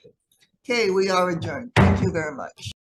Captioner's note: gavel slams